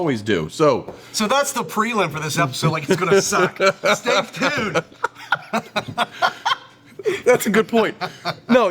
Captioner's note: laugh